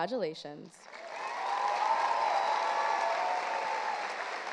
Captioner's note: audience cheers